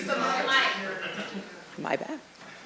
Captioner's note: voiceover